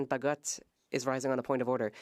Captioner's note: speaking French